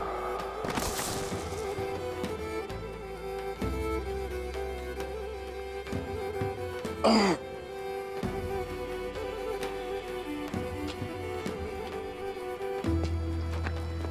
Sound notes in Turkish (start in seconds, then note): 7.0 Adam İnliyor